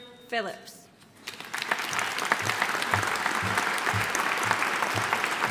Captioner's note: audience applauding